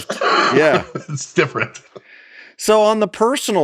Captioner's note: laughs